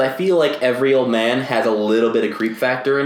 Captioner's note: none